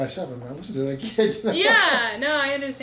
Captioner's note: laughs